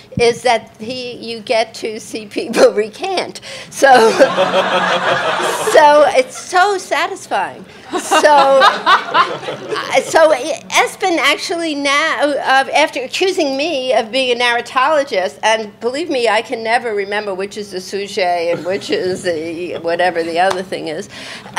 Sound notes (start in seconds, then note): 3.9 all laughing; 7.9 audience laughs